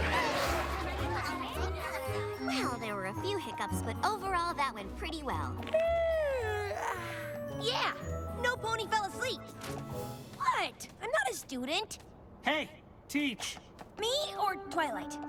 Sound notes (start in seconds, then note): 1.6 laughter, indistinct conversations; 6.5 yawns